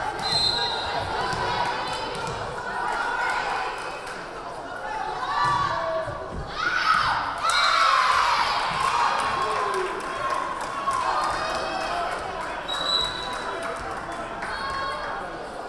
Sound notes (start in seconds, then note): 0.2 whistle blaring; 7.0 crowd cheering; 7.5 whistle blaring